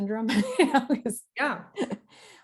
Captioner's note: laughing